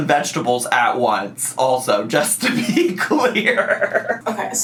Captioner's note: laughs